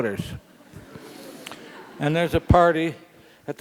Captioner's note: laugh